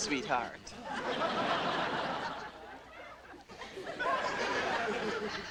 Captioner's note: audience laughing